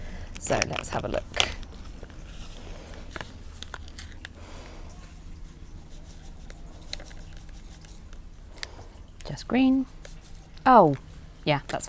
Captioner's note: rustling